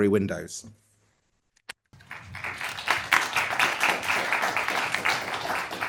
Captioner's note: audience applauding